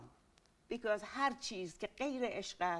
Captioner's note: speaking in Farsi